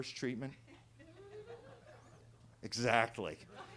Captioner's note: attendees laughing